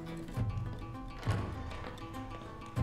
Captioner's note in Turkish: Kapı açılma sesi